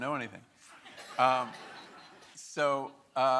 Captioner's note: audience laughing